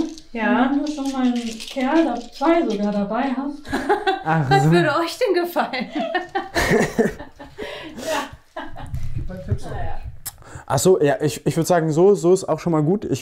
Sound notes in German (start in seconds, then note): 5.7 Lachen; 5.9 lacht